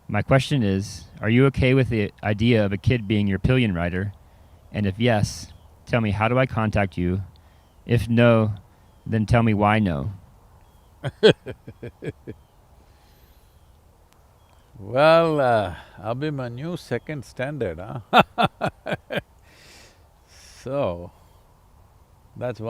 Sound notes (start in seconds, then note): 11.0 Sadhguru laughs; 19.9 laughs